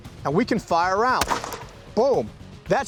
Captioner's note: gun fires